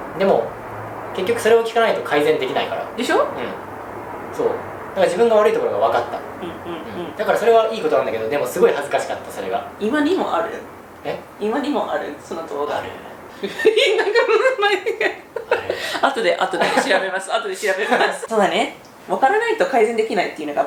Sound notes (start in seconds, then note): 13.4 giGgLeSSss